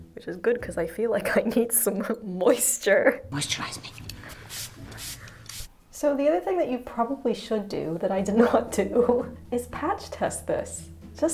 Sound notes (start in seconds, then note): 4.3 water spraying